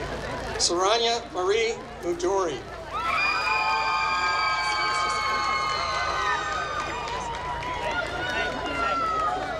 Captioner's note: applause